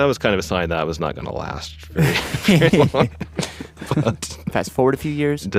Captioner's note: laughs